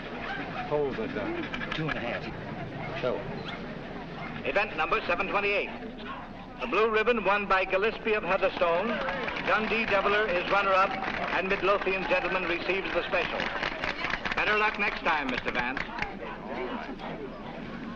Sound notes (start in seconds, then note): 3.8 man over P.A